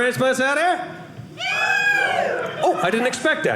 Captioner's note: audience cheering